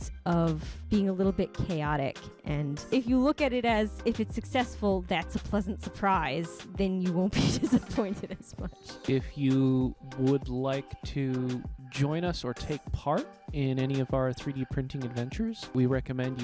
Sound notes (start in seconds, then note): 7.4 laughing